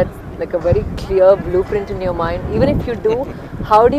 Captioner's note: Sadhguru laughs